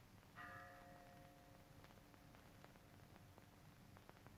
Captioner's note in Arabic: رنين الأجراس